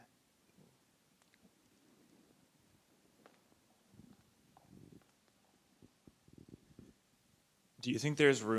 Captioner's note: silence